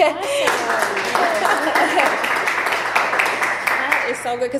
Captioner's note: audience applauding